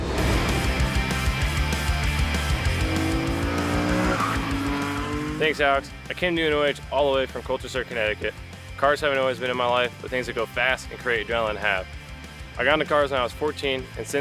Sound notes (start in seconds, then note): 0.1 energetic music; 2.7 car engine revving